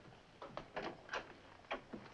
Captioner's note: door opens